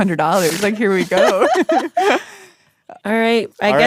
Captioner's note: laughs